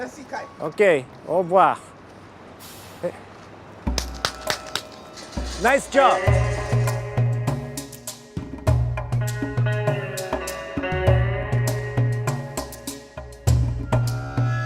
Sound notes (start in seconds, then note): 3.9 smacks hands; 7.0 tense music